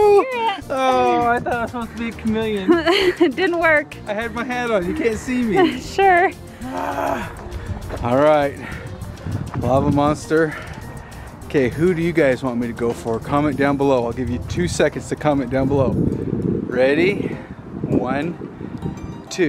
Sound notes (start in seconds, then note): 6.6 groaning